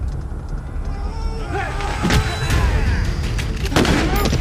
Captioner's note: men screaming; gun banging